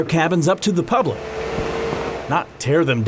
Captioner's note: construction equipment noise